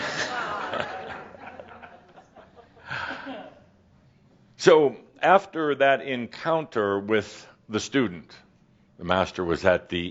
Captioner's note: a few chuckles